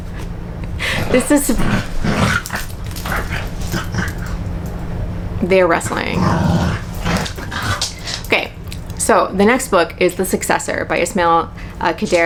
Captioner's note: corgi sounds